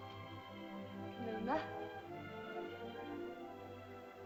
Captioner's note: soft music; Loana speaks in caveman language; soft music